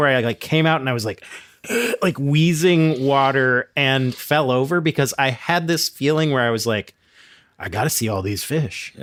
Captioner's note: gasping